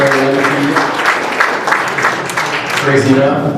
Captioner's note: applause